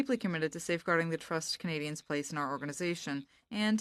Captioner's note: speaking in French